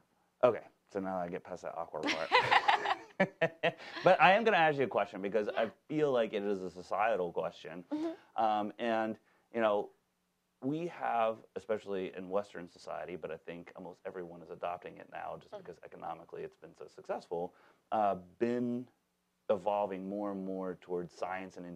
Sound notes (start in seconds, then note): 2.0 both laughing